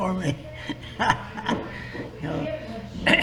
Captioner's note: laughs